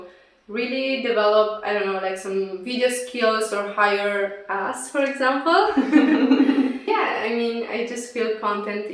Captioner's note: laughs